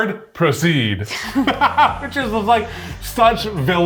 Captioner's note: laugh